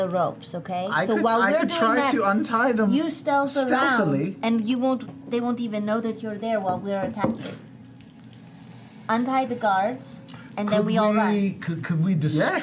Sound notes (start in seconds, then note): none